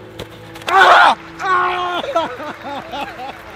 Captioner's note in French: Cris de douleur